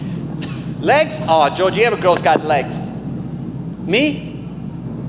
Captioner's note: coughs